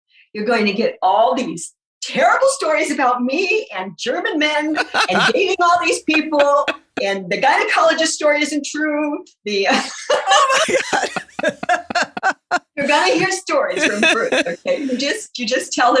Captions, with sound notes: to get all these terrible stories about me and German men. Engaging all these people. Laughing Martha Smith And the gynecologist story isn't true. (laughing) Laughing Martha Smith The guy hears stories. Just... you just tell